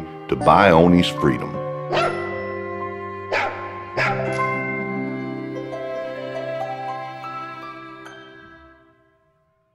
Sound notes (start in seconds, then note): 3.9 dog barking